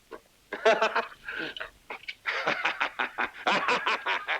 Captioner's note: Lucky laughs